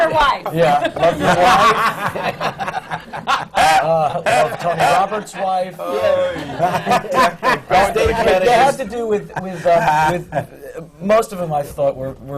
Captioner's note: laughter